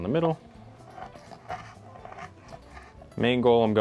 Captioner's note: knife grinding